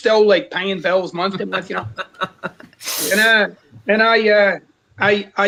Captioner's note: laughs